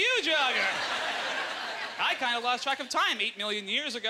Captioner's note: audience laughter